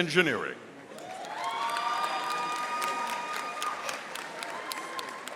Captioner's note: audience applauding